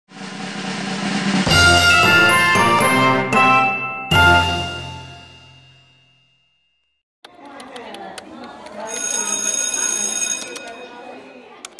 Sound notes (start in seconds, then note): 1.4 upbeat music; 7.2 typing sounds, children chattering; 8.8 bell rings